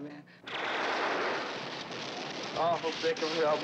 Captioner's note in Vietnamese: Tiếng súng